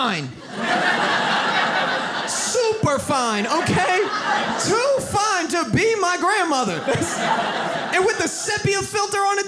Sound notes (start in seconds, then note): 0.3 audience laughs; 6.8 audience laughs